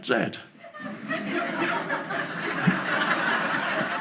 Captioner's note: audience laughs